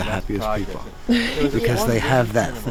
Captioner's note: Aislinn chuckles